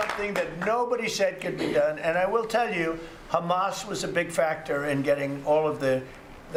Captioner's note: applause